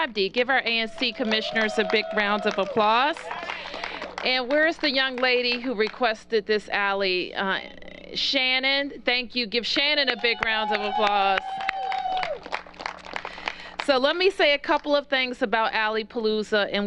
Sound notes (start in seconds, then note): 3.5 applause; 12.3 cheers and applause